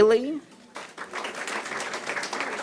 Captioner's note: applause